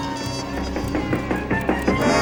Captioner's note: clock ticking quickly